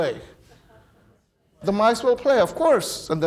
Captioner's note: audience murmuring